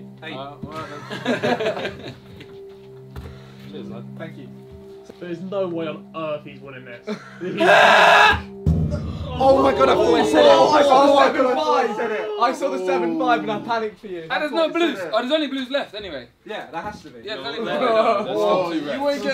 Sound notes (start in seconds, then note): 0.8 all laughing; 7.6 Ethan screaming; 9.2 all chattering; 17.4 all chattering